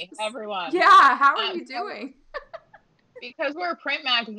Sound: laughing

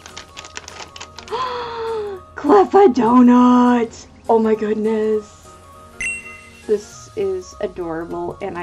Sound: le Gasp

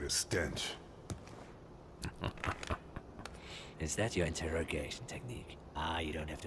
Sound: laughing

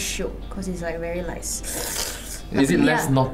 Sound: sluuurrrp

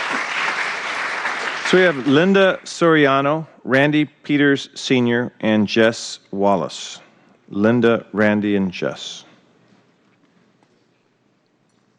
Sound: applause

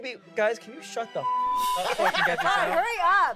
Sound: beep

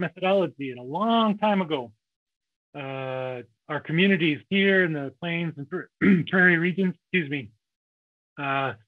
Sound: coughs

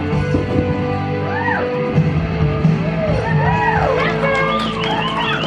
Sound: audience cheers

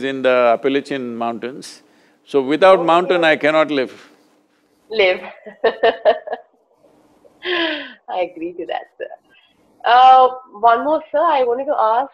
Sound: laughs

